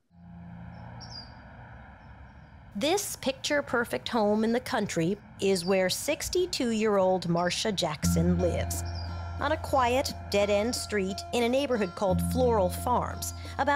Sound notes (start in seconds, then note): 0.6 birds chirping